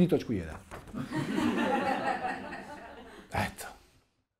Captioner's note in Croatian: smijeh u publici